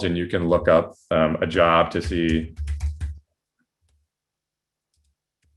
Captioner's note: soft typing